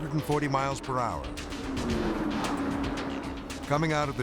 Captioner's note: cars whooshing